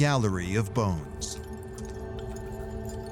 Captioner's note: soft clinking